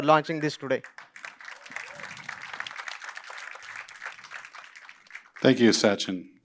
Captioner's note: applause